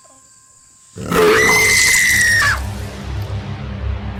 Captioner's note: Monster growl followed by Rachel screaming